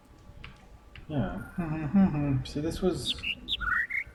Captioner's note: overlapping birds chirping, ˥ ˧ ˥ ˩; imitates notes